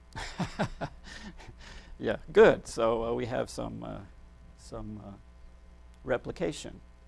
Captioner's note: laughs